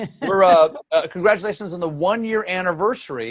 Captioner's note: laughter